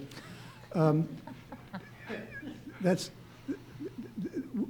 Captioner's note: audience laughs